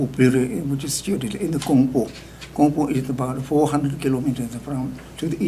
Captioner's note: speaking tibetan